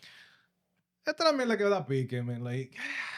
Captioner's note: speaking In Foreign Language